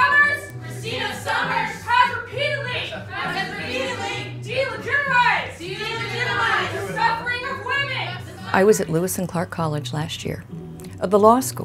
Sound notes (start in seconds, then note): 2.8 crowd